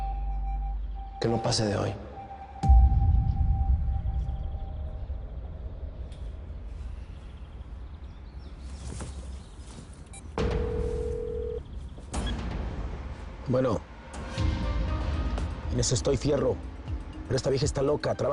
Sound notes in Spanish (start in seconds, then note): 11.9 Suena el celular